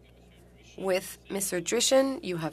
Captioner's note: speaking French